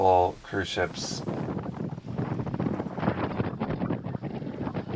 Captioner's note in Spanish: sopla el viento